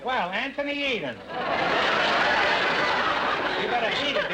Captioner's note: audience laughter